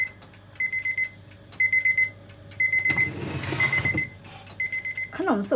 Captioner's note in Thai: เสียงนาฬิกาจับเวลาดัง